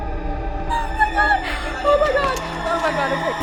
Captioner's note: screams